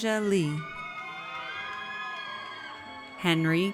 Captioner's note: audience cheers